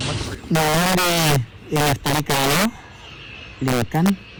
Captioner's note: non-english speech